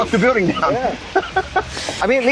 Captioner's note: laughs